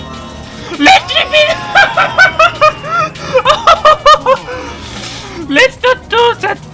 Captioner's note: frustrated laughter